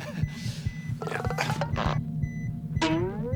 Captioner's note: grunts; laughs